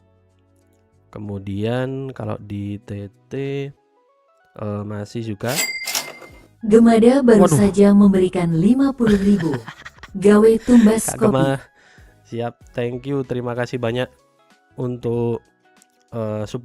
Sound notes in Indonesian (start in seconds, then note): 9.0 tertawa